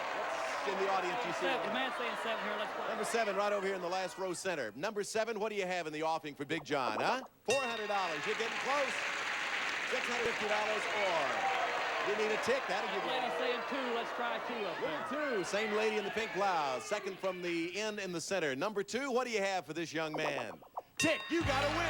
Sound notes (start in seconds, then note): 8.1 audience applauding